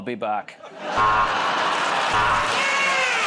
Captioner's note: buzzer